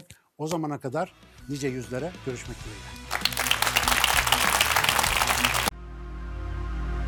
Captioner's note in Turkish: alkış